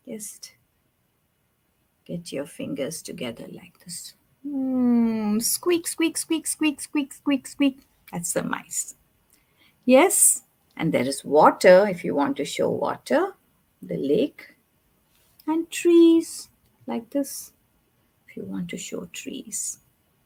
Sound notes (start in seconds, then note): none